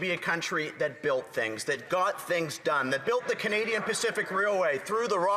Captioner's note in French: voix de l'interprète